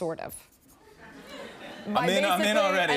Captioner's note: scattered laughter